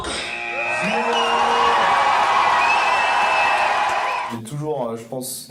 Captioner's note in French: acclamations